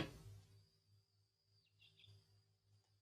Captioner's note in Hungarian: madárcsicsergés